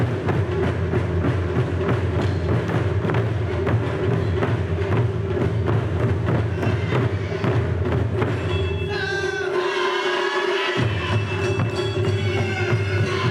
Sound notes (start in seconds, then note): 6.1 upbeat Taiko drums music continues; 8.9 instrumentalists shouting